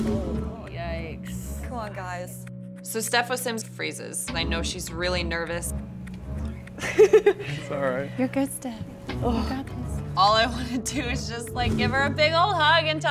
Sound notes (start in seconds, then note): 6.7 nervously laughing